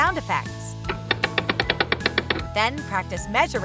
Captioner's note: cranking sound